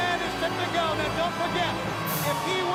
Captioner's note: crowd cheering